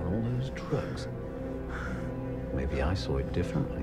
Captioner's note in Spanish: Josh respira profundamente